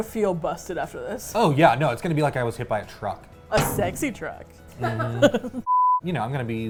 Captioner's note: laugh